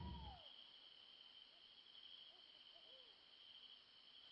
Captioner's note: crickets chirping